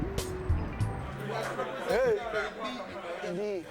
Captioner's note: mixed chatter